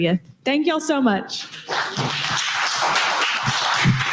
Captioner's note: applause